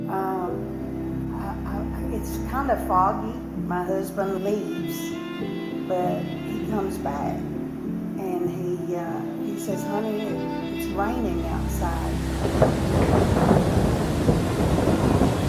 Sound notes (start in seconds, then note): 11.9 thunder and rain